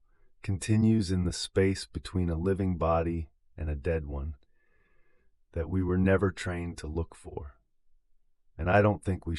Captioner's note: exhale